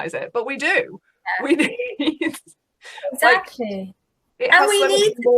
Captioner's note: laughs